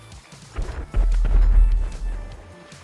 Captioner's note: distant explosion